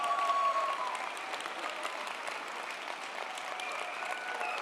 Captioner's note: audience applauding